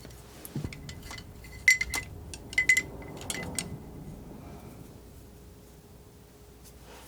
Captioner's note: scratching